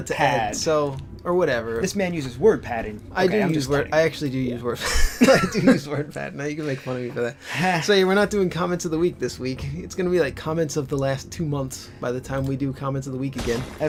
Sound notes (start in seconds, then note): 4.8 laugh